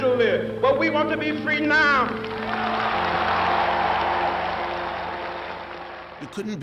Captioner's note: crowd cheers